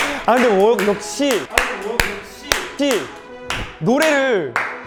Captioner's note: self-applause